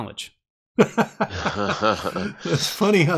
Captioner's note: more smug, self-assuring laughs